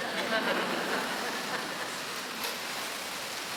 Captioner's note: laughing